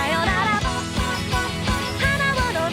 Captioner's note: gulp gulp gulp gulp